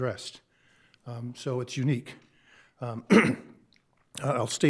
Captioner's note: clears throat